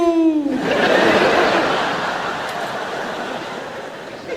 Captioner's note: audience laughs